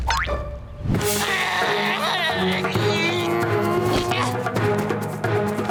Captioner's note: grunting